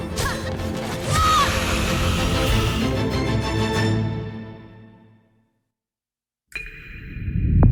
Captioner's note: grunts and thuds